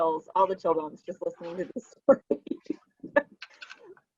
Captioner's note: laughing